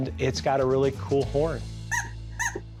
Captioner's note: horn squeaks